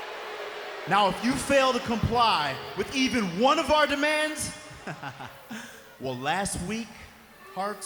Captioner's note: laugh